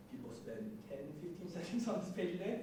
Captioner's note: none